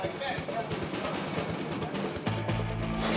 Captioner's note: inmates chattering